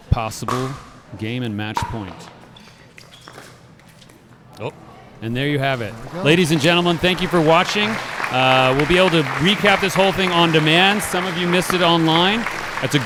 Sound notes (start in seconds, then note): 2.3 shoes squeaking; 2.3 ball being hit; 5.7 applause